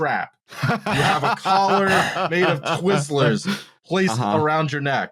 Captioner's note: laughter